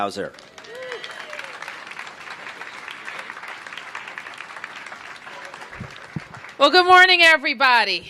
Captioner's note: applause